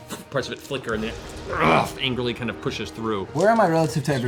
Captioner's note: growls